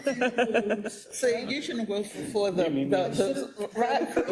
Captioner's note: laugh